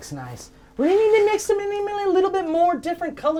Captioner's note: rambling nonsensically